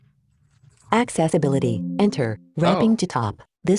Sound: automated Voice

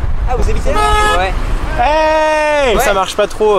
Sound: horn sound

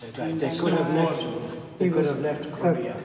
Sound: chatter

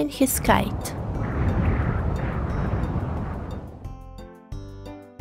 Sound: wind blowing

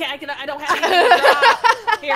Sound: laugh

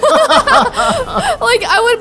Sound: both laughing

